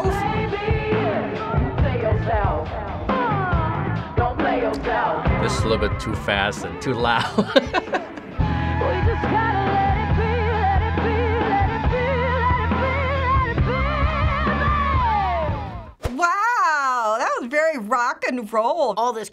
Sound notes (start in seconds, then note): 6.9 chuckles